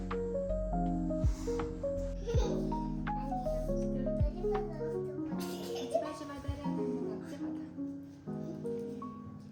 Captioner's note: haha